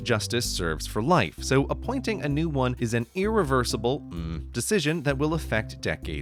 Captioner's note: hmmm